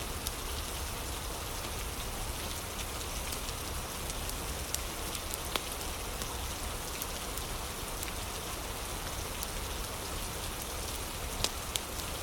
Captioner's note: fire crackling